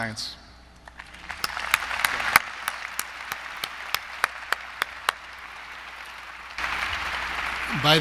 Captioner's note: applause